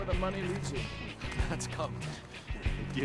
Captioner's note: chuckles